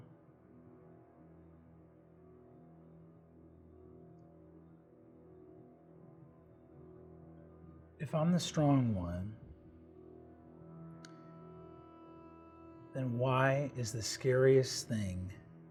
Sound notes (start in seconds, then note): none